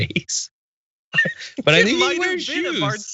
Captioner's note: laugh